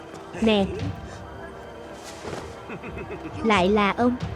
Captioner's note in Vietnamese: tiếng cười